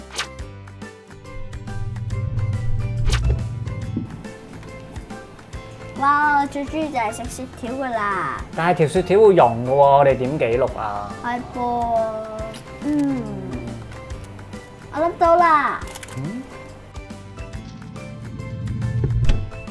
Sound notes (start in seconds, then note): 1.2 swishing sound